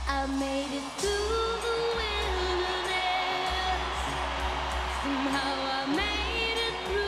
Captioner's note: cheering